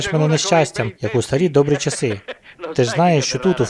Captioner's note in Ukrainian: сміється